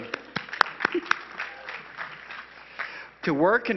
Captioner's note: crowd applauding